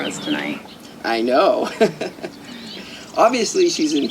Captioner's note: laughing